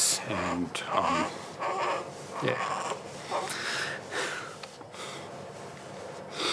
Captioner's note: cries